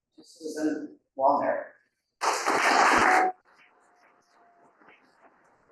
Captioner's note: audience applauding